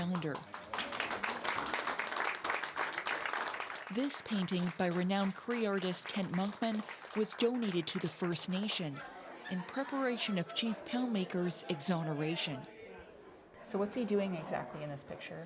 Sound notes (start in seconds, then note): 3.6 applause